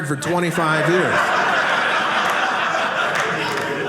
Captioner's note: audience laughing